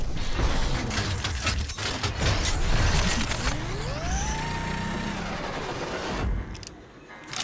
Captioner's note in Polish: brzynk i wyrczynie maszineryje